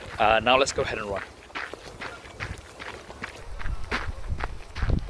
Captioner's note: footsteps running